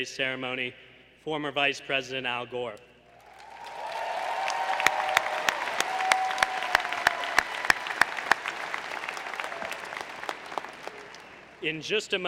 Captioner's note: applause